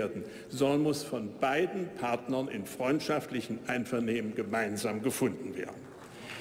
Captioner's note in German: Beifall bei der AfD